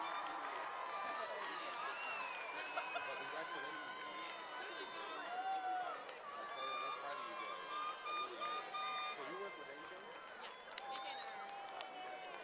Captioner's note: applause